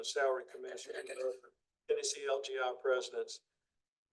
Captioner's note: audio warbles